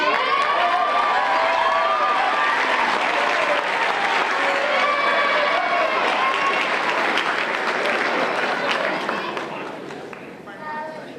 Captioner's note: applause and Cheers